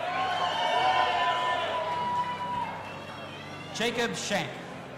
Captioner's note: audience applauding and cheering